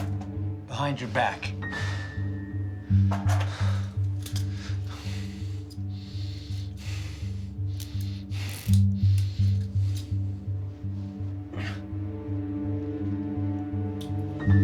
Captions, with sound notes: Behind your back. (tense music) (Rico breathing heavily) (tense music)